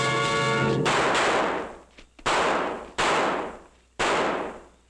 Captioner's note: gun roaring